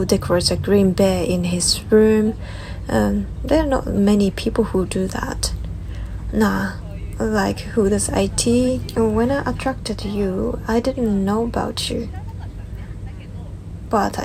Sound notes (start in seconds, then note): 5.5 laughs